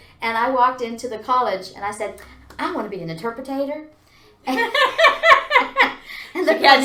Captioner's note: laughs